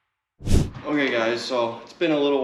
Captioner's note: screen whooshing